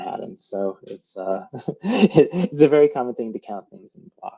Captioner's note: laughs